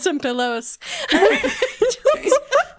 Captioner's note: both laughing